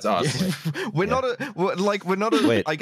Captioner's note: laughter